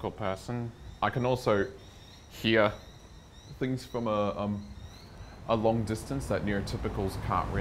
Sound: bird tweets

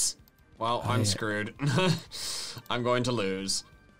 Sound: laughs

